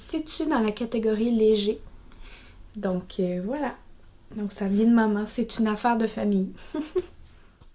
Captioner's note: laughs